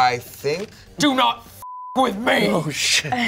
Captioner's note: beep